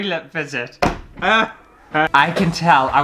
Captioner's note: laughter